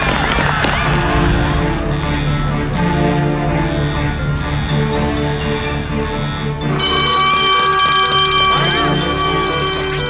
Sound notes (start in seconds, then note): 7.2 bell ringing